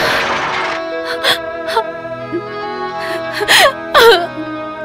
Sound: sobbing

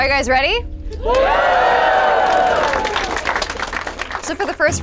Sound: participants cheers and applauds

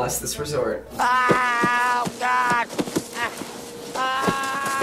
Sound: Jim Varney screaming

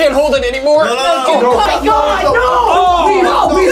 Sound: yelling

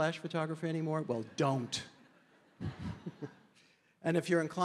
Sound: chuckles

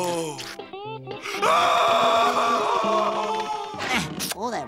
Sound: screaming

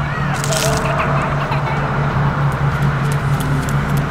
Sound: child laughing

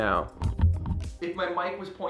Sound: mic echoing

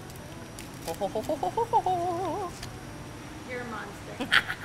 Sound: humming

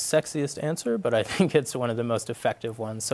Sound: laughs

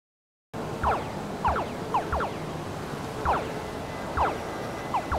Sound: video game sounds

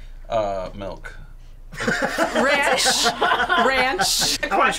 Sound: laughs

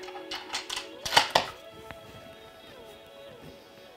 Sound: reloads gun

